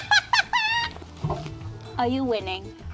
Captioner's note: laughing